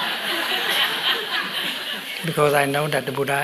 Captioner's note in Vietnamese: tiếng cười